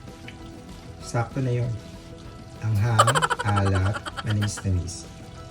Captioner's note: struggles to swallow